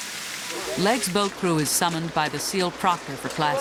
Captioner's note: voiceover